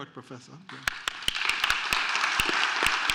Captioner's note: applause